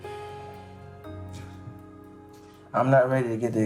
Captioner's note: sighs